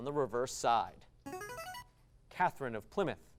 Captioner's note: device sound